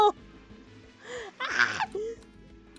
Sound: shrieks

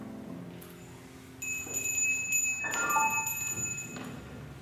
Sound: bell ringing

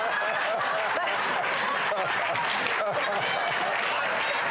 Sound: laughter

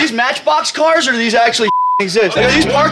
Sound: beep

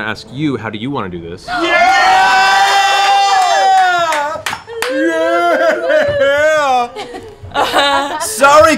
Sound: cheering

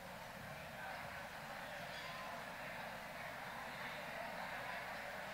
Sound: people chattering

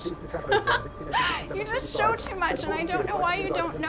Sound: laughs

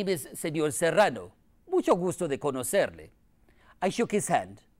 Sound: speaking in foreign language

